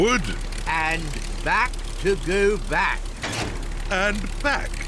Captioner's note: lever clunks